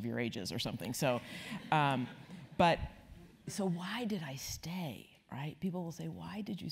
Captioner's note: laugh